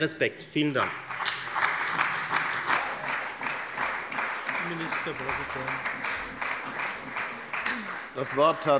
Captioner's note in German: Beifall bei der FDP und der SPD